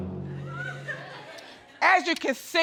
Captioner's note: audience laughing